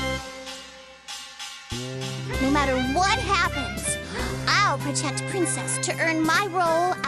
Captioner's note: gasp